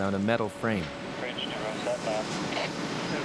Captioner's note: man On Radio